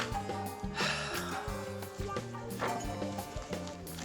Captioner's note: sighs